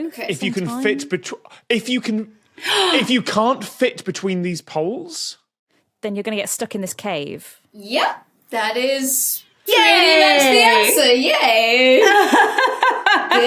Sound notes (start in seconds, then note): 2.6 gasps; 12.0 laughs